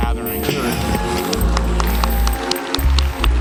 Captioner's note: applause